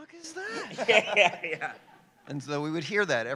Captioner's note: laughter